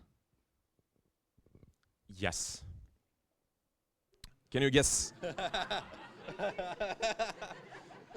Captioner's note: laughter